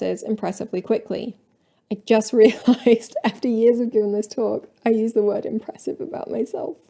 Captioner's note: laughing